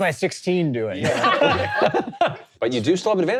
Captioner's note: all laughing